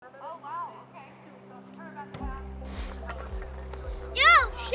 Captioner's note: distant Chatter